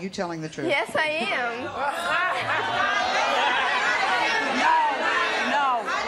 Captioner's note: audience shouting